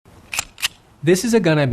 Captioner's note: gun clicks